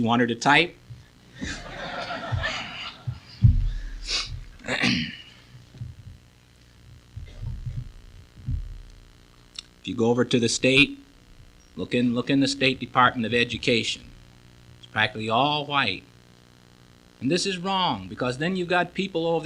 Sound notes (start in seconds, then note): 1.8 clearing his throat